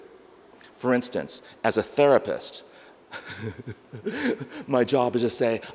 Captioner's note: laughs